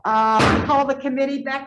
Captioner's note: gavel thudding